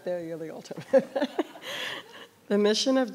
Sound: laughs

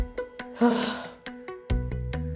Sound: sighing

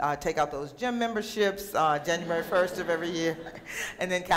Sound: laughter

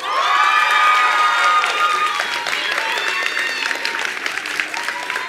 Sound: attendees applauding and cheering

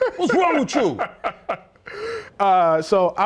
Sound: laughter

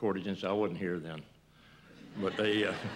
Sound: laughter

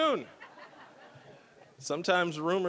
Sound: audience laughing

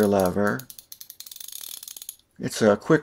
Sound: ratchet sounds

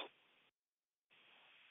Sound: silence

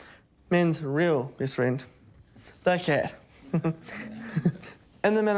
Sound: chuckles

